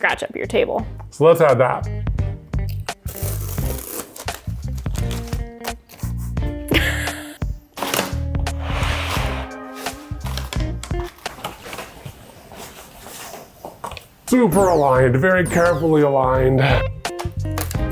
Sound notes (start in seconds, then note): 1.8 gentle jazz music; 3.1 adhesive tearing; 3.8 paper rustling; 4.5 both laughing; 4.5 jazz music continues; 8.1 tape rasping